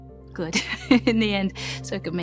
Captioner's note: chuckles